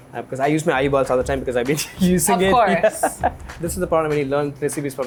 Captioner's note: laughs